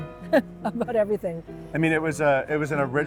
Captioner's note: laughs